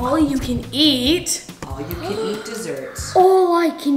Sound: gasps

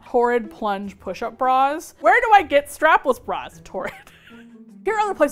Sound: laughs

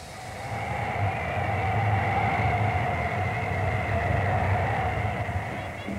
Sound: wind blowing sounds

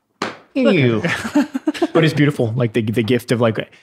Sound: innocent chuckles

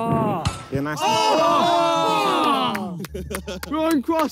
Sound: players cheer

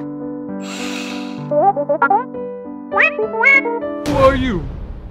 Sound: beeps

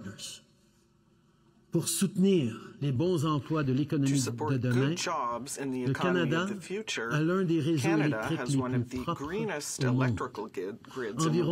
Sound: speaking French

